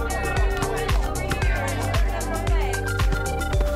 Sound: ball court chatter

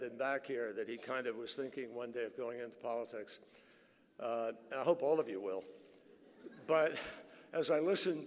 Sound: laughter

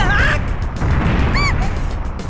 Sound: panicked cry

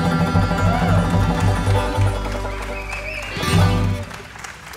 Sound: audience applauding

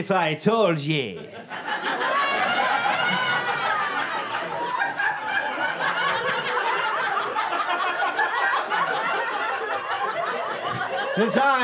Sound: audience laughter

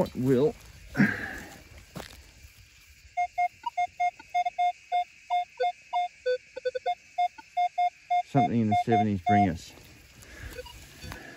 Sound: beep beep

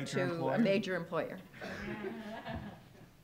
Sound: laughs

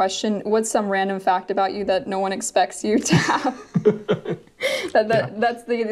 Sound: laughs

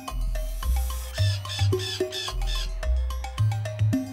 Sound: cawing

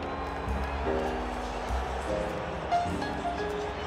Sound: crowd cheering

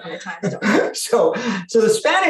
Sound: chuckles

